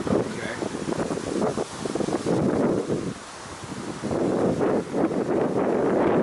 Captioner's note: wind howling